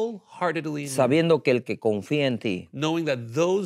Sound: speaking in Spanish

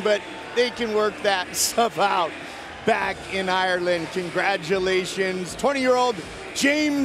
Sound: cheers and applause

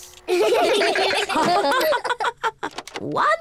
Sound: all laugh

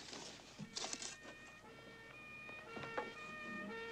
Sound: police car approaching

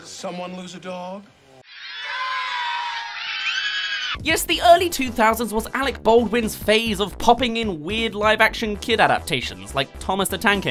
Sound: screams

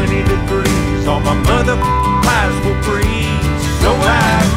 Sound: beep

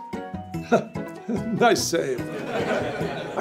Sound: laughs; audience laughs

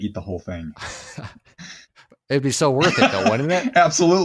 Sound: laughs

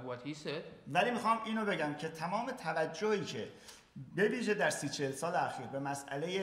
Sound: speaking in farsi

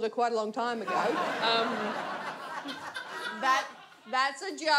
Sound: audience laughs

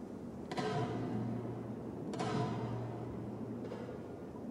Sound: metal banging continues

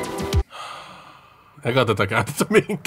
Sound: sighs

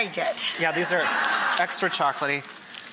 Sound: audience laughter

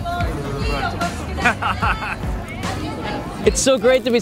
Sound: laughs and nods in bliss

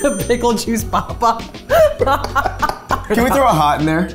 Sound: both laughing

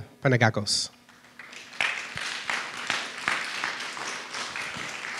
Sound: audience applauds

